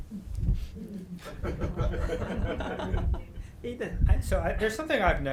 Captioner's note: group laughing